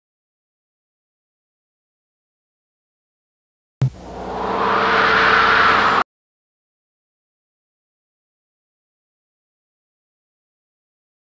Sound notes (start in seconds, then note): 0.4 silence; 3.8 analog synthesizer whoosh sounds; 6.4 silence